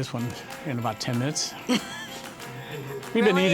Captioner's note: laughs